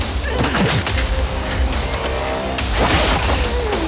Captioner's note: grunting